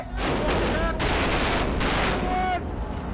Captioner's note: guns firing; man shouting